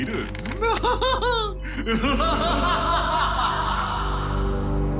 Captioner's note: laughs maniacally